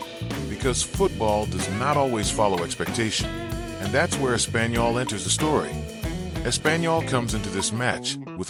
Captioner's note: Espanol